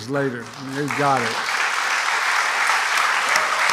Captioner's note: applause